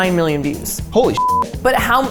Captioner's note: beep